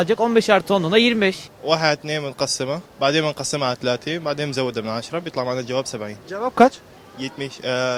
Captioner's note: he speaks Arabic